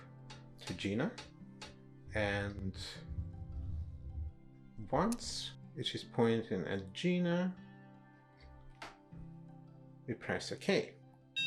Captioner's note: DSC emits short beep